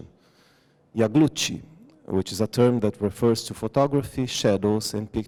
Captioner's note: non-english